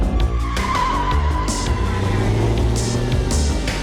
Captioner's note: tires squealing